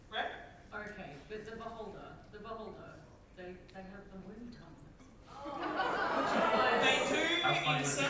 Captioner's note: audience reaction